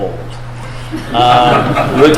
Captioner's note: laughter